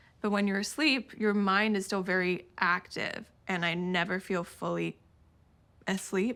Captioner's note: none